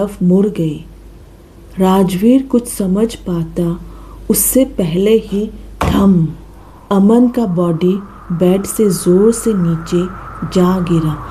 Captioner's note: thud